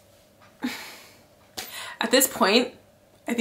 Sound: sighs

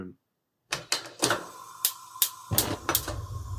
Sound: gas stove clicking; flame igniting

